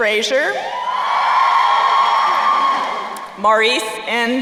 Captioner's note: crowd cheering